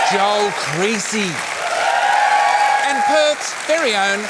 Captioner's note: cheering, applause